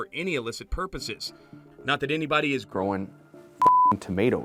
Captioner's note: beep